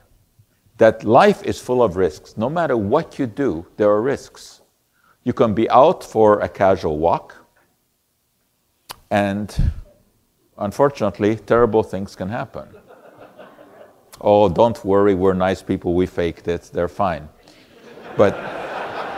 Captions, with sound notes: that life is full of risks no matter what you do there are risks. You can be out for a casual walk and Unfortunately terrible things can happen. Oh don't worry. We're nice people. We fake that they're fine, but [Audience laughter]